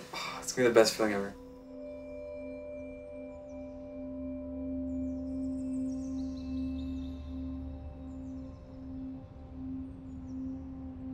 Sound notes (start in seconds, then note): 4.7 birds chirping